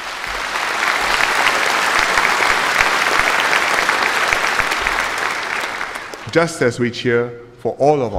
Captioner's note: applause